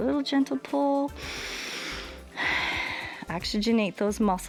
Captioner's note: inhales and exhales